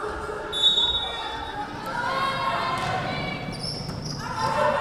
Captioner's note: whistle blowing